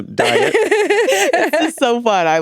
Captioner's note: all laughing